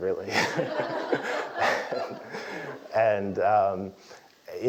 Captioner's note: laugh